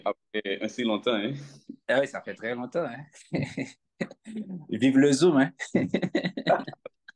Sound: chuckles

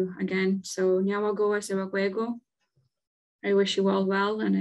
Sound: speaking in Kanien'kéha language

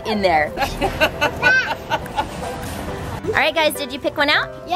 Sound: grandma laughs

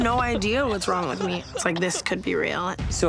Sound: Tana coughing

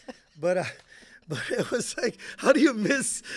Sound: chuckling

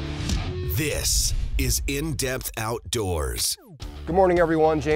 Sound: voiceover

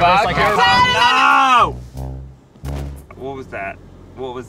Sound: yelling

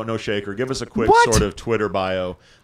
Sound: laughing

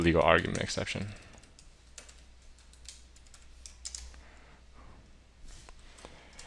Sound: keyboard Sounds

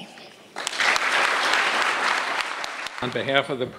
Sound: applause

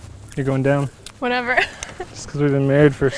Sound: laughs

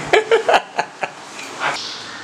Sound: loughing

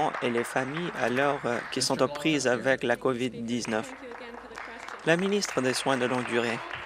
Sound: applause

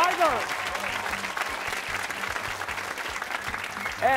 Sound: cheers and applause

